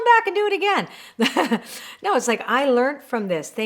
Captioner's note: chuckles